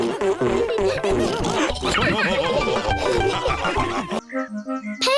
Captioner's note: all laugh